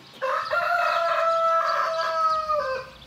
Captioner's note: A rooster crows